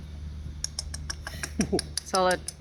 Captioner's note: tapping